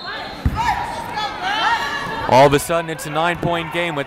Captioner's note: whistle blowing